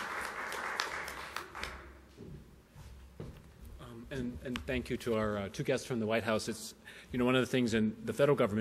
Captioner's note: applause